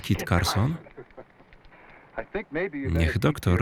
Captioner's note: laughs